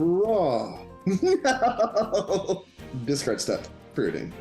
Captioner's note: laughs